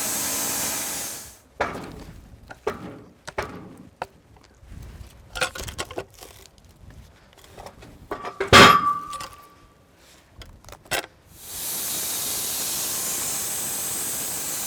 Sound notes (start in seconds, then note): 8.1 metal clanging; 11.6 blade sawing